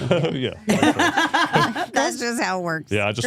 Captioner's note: all laughing